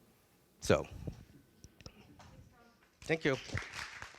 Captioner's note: applause